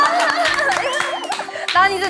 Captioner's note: laughing